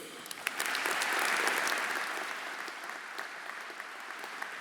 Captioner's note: audience applauding